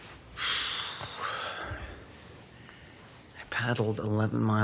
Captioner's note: exhales deeply